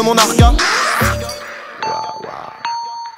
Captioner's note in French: cri hystérique